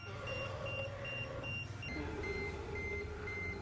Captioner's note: low growl